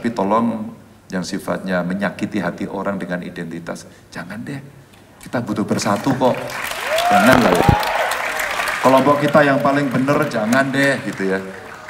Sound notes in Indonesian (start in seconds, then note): 5.8 tepuk tangan